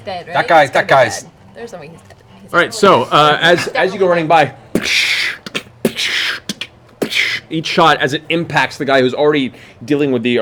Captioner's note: gunshots